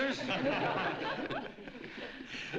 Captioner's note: laughter